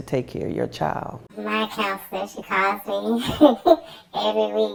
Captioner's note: laughs